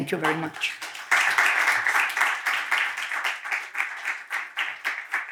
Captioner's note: attendees applauding